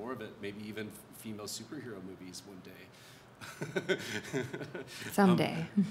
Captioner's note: laughs